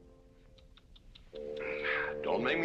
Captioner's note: clicking tongue